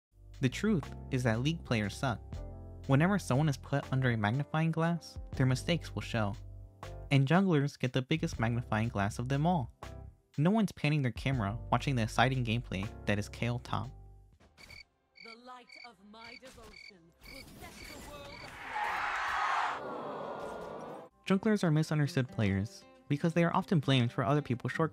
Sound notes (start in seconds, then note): 14.1 cricket noise; 18.5 crowd Applause; 18.5 crowd Disappointment